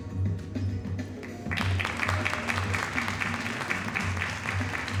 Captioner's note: audience applauding